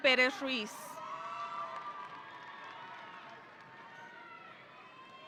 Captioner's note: audience cheering